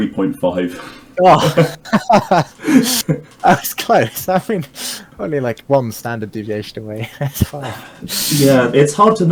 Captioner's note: both laughing